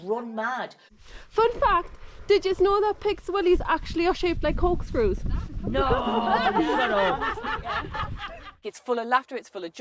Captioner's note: laughter